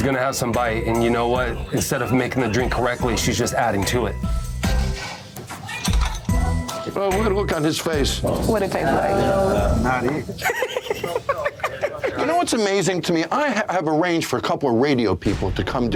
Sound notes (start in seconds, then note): 10.3 companion laughing